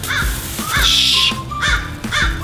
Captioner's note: crow cawing